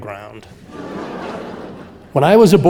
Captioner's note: audience laughing